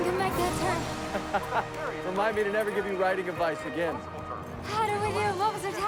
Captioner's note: laughs